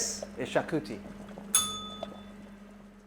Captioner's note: bell rings